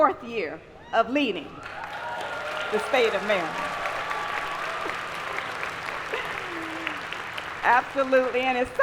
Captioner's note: applause